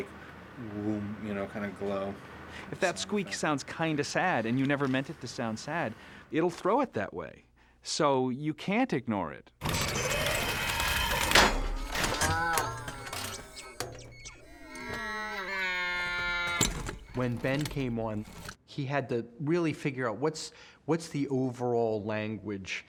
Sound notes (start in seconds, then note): 9.6 clanks; 11.5 muttering; 14.5 moaning